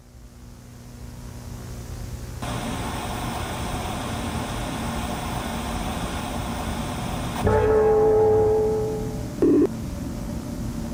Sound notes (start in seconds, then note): 2.4 static hissing